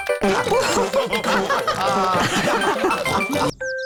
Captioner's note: all laughing